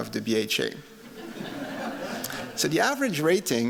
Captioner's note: laughter